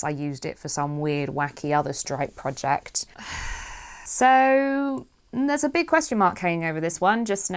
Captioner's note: sighs